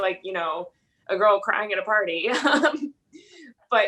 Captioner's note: laugh